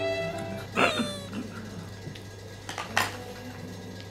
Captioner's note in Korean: 쓴웃음